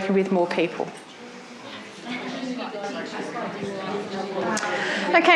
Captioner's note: audience chatter